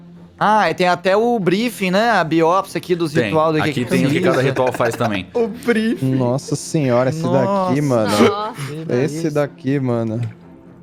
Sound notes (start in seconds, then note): 6.5 laughs